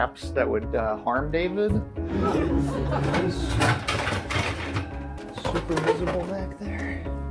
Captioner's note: audience laughter